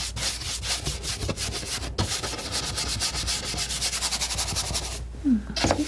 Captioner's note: scratching